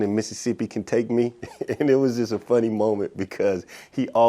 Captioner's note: laughs